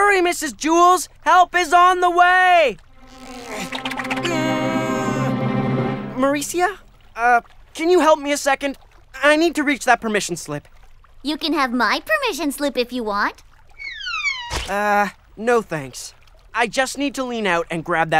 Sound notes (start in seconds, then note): 2.3 straining grunts